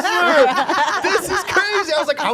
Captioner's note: group laughing